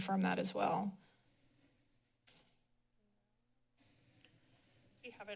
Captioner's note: silence